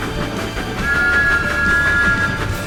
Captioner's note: THOMAS peeps his whistle loudly